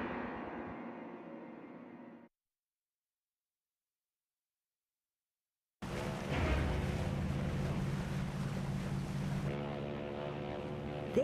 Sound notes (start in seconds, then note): 5.8 water splashing; 9.4 ship's horn blowing